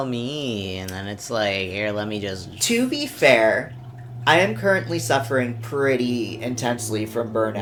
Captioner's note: farting sounds